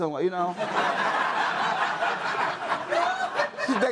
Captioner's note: audience laughs